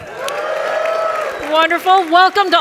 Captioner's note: audience cheers